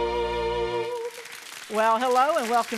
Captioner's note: audience applauding